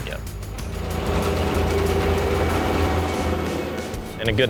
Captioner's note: baler's engine roaring